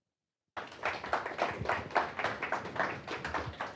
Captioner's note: applause